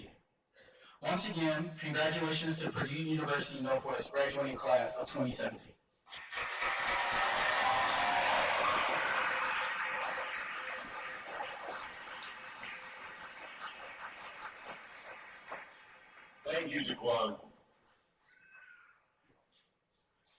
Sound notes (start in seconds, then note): 6.1 cheers and applause